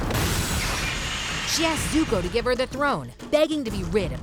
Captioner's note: rhythmic action music; lasers whooshing